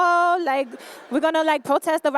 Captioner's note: laughter